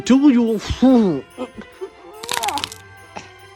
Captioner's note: glue ripping/unsticking